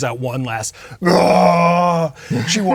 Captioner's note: imitates minotaur roaring